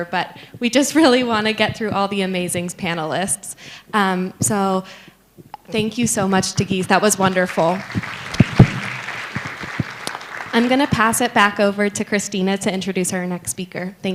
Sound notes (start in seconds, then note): 7.2 applause